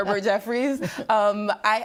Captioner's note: laughing